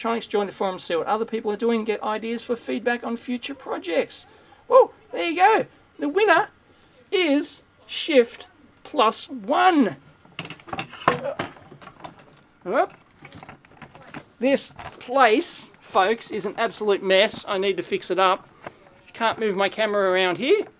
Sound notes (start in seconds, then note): 10.0 equipment shuffling